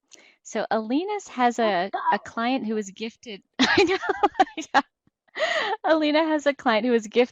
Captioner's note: laugh